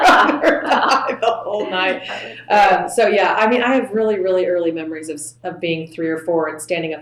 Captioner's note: laughter